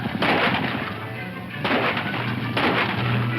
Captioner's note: whooping; guns firing